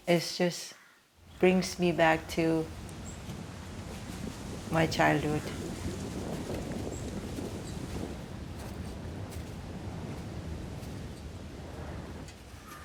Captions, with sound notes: It just brings me back to my childhood. (wind whooshing) (grass crunching)